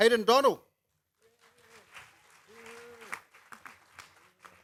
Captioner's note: applause